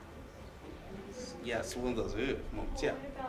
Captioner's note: exhales